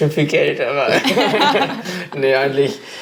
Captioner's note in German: Gelächter